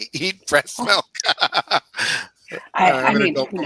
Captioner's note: laughs